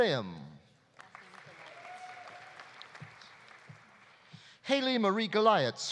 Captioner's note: audience applauding; audience cheering